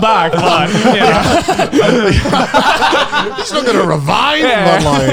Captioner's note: laughs